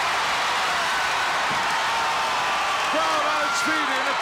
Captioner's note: crowd cheers